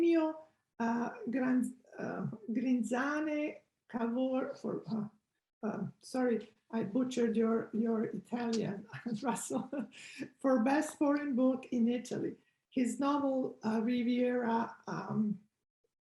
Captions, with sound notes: Sorry, I butchered your Italian, Russell (chuckles). For best foreign book in Italy. His novel review, "Buick Riviera",